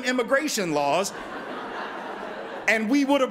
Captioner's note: laughter